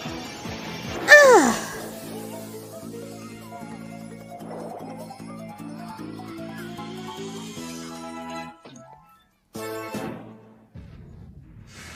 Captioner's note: Komasan grunts